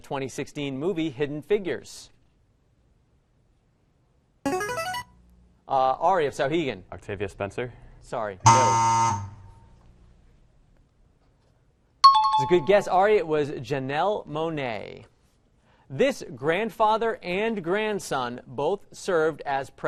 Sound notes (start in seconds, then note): 4.1 player buzzer; 8.4 error buzzer; 12.0 timer bell rings